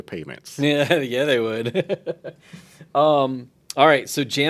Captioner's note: laughs